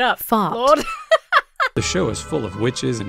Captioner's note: laughs